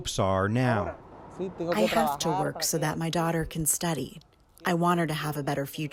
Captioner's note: through translator